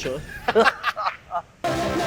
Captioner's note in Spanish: risas